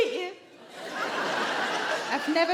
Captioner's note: audience laughing